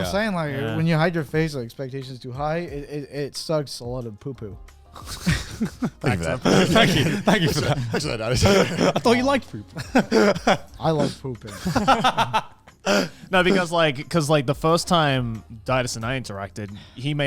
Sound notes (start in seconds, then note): 9.7 laughs